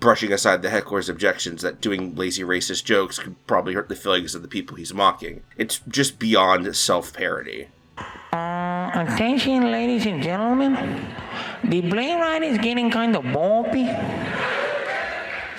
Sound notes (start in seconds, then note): 7.9 imitating mexican accent